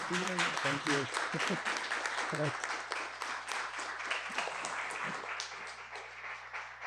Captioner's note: audience applauding